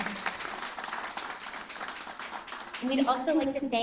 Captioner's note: applause